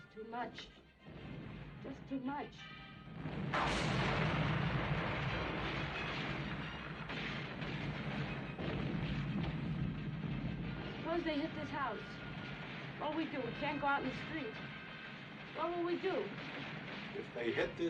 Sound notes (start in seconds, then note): 3.4 gunfire Continues; 3.7 loud Explosion